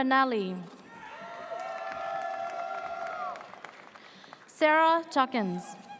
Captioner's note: audience cheers